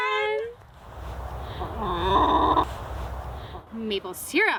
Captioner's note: chicken growls